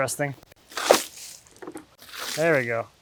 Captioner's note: water splashes